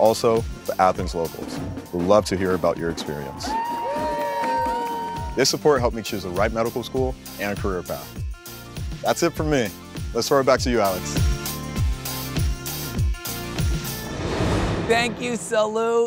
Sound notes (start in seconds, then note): 2.8 people cheer and clap; 10.7 happy electronic music